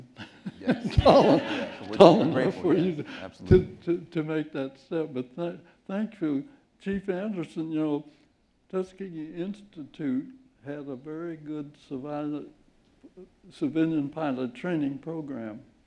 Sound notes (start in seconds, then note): 3.6 laughter